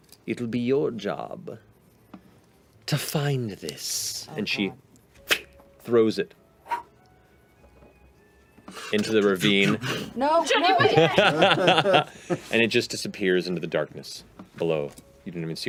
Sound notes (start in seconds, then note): 10.8 laughter